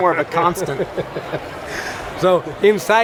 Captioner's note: laughing